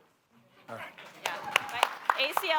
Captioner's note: applause